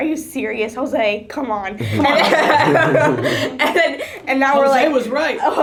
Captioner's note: laughter from all